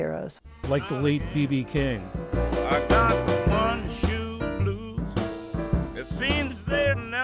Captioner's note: voice-over